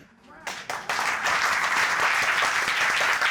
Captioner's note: audience applauding